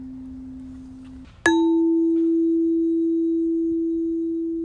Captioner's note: chime